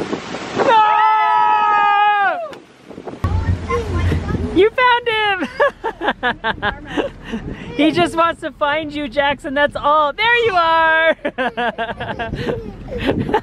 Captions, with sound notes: (cheers) - You found him! (laughs) He just wants to find you, Jackson, that's all. There you are. (laughs)